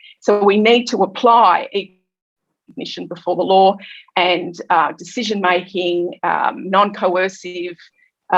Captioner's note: audio distorted